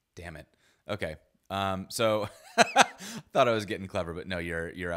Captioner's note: laughs